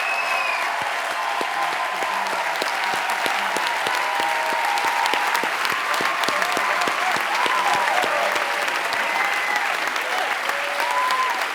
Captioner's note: applause